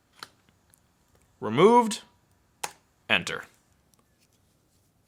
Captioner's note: clicking